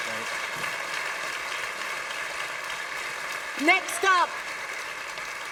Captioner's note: applause